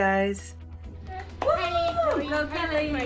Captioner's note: clapping; family cheering